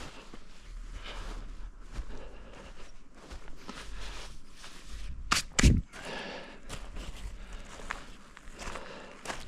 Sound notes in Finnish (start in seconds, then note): 5.9 huokaus